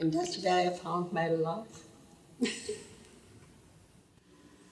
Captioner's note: laughs